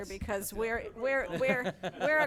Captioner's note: laughing